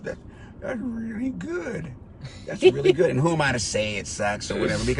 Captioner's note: driver laughs